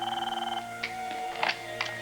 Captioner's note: ring